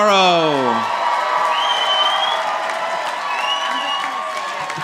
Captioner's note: audience applauding